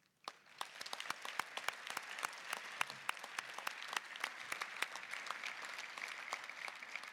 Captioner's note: applause